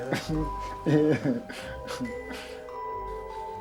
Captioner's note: chuckles